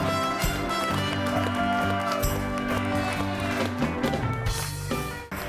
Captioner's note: audience cheering; audience applauding; upbeat music